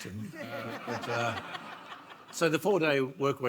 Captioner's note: audience laughs